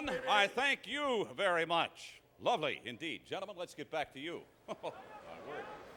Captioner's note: laugh